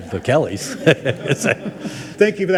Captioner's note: people chuckle